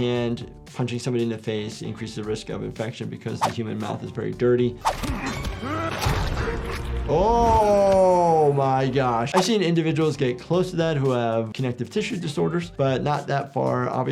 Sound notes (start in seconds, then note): 4.8 dramatic music; 5.0 bones crunching; 5.6 Omni-Man grunting